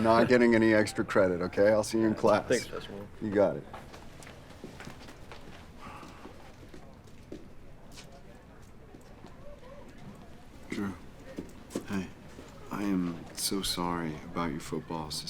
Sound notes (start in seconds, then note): 5.7 Jeff sighs; 7.0 students chattering